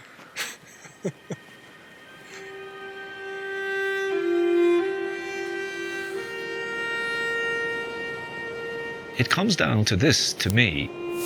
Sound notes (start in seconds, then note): 0.4 chuckles